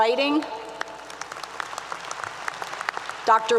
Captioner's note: applause 👏 👏